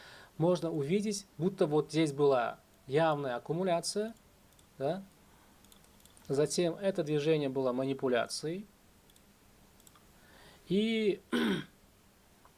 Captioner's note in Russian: откашливается